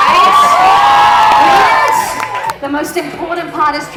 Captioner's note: crowd cheering